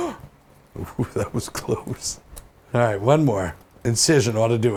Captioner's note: gasp